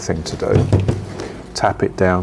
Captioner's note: pot bangs